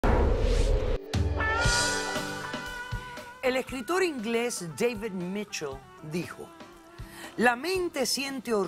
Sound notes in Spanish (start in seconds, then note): 1.5 Bip